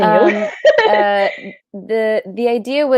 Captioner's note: laughing